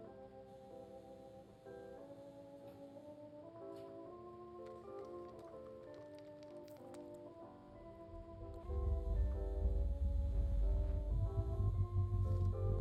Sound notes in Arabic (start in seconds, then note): 8.0 طنين الأضواء; 8.1 رنين نابض